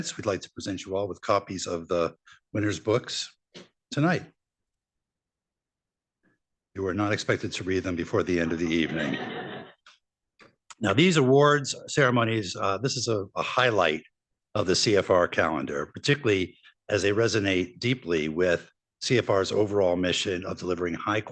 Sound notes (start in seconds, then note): 8.4 laughter